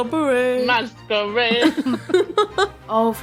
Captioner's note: laughing